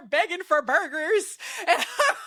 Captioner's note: laughing